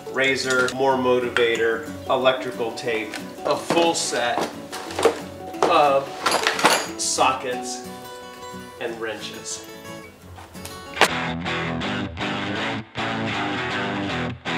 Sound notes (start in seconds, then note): 6.0 clanking; 10.6 energetic rock music